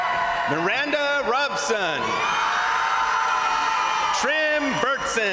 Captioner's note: crowd cheering